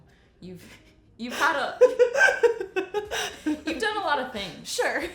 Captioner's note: laughing